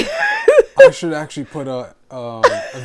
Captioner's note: laughing